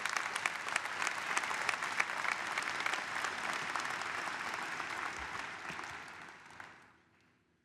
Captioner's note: applause